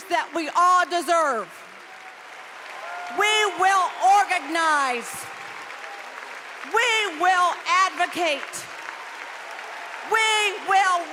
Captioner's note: applause